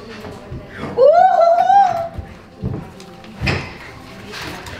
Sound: girls cheer

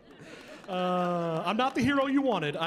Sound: chuckling

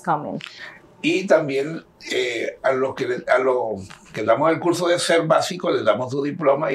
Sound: speaking in Spanish

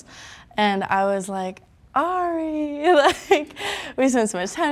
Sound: chuckling

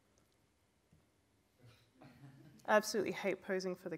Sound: chuckles from audience

